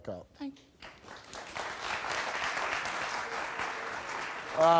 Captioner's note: audience applauds